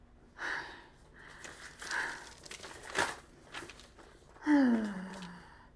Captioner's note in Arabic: تجعد الورق